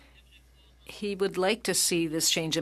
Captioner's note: speaking French